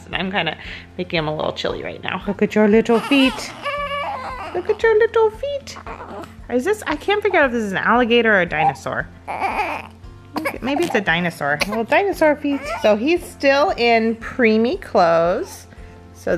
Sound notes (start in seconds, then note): 2.9 baby crying; 9.2 baby crying